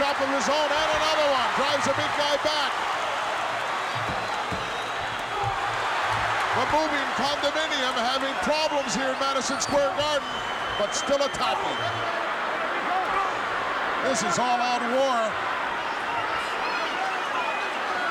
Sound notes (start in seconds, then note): 3.2 crowd cheering